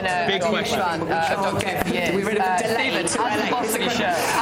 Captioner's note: more sound feedback loops